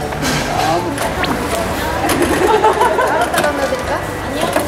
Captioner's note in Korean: 소리에 놀람